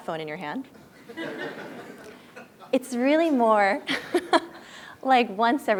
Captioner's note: laugh